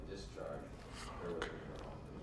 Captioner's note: whispers